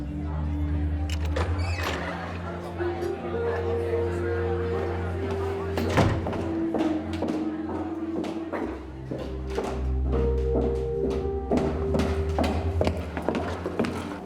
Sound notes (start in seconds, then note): 0.1 indistinct chatter; 1.0 door hinges squeal open; 2.3 indistinct chatter; 5.8 door clicks shut; 6.3 indistinct chatter